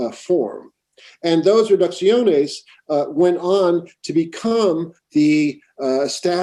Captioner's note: spanish